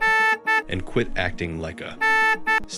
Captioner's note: beep